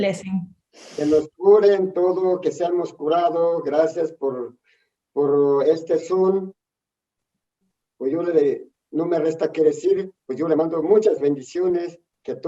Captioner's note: speaks in Spanish